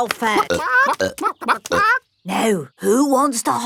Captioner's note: clucking